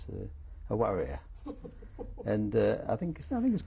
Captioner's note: laughter